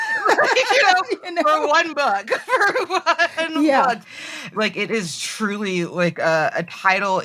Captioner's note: they laugh